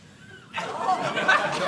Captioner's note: audience laughing